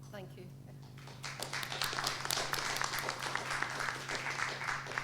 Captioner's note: applause